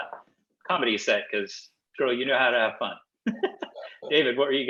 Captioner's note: laughs